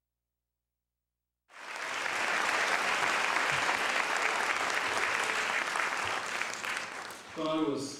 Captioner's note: applause